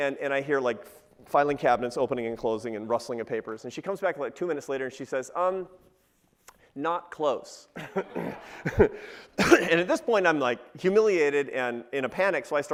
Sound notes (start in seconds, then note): 7.8 laughs